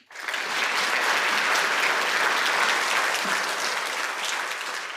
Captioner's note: audience applauding